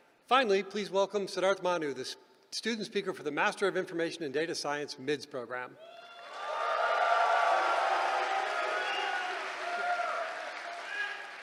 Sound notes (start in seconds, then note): 5.8 cheering